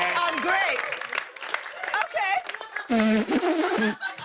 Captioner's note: sputtering; laughter